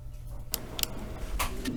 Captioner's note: sound of a click